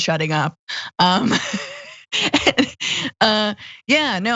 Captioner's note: laugh